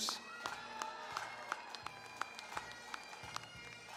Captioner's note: cheering, applause; bagpipe music